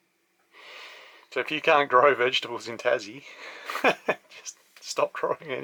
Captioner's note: laughs